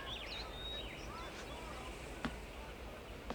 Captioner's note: none